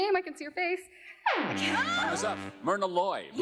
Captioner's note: buzzer sounds